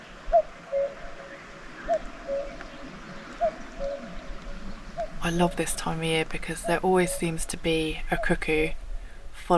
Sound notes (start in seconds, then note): 0.2 cuckoo; 7.0 cuckoo